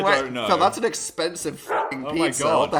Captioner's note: bark